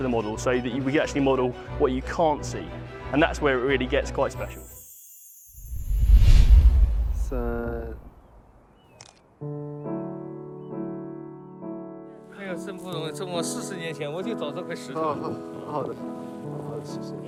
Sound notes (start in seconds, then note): 9.4 gentle music; 12.6 speaking Mandarin